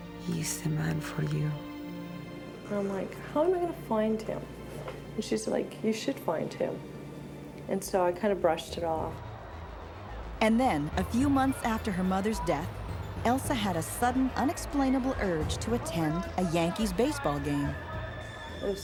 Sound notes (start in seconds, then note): 9.3 dramatic music; 9.3 fans yelling